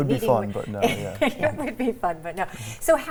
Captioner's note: laughs